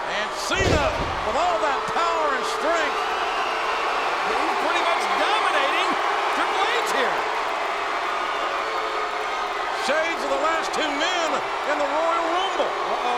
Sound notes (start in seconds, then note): 7.6 applause